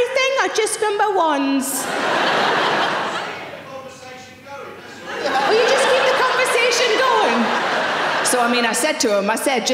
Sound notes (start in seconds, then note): 1.8 audience laughing; 4.9 audience laughing